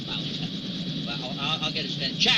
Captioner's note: helicopter whirring loudly